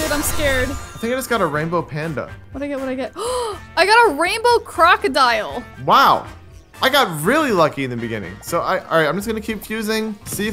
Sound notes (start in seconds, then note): 3.2 gasps